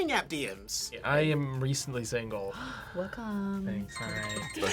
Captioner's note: gasps